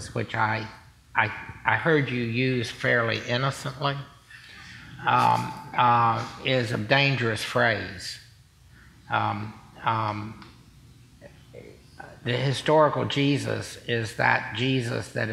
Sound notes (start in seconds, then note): 4.9 chuckling